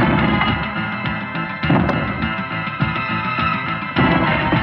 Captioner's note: banging; tense music